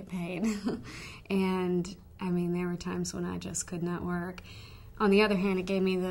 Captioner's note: laughter